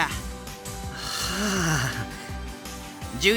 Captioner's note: resigned sigh